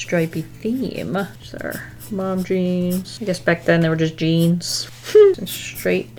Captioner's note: giggles